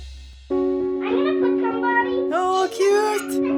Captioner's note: girls chattering